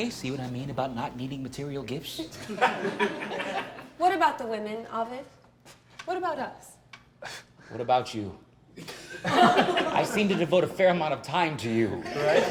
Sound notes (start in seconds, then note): 2.4 laughter; 8.8 laughter; 8.8 laughs; 12.0 laughter